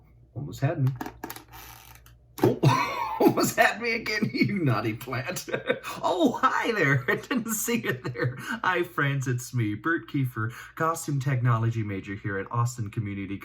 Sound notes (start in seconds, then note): 0.2 plant snaps; 2.5 chuckles; 2.6 plant snaps; 6.8 laughs